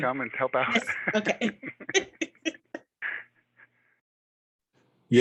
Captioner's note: speakers laughing